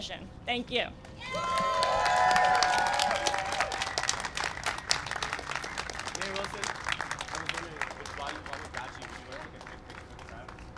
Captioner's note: cheering and applause